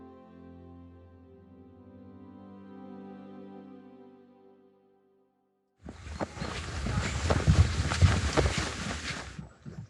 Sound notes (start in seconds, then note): 5.8 feet stomping